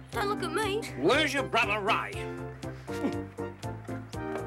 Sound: grunts; upbeat music continues

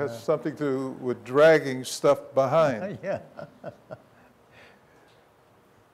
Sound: laughs

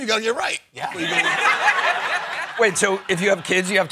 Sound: laughter

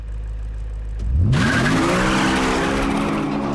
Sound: tires screeching

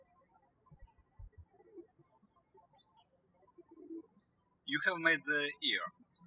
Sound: birds chirping

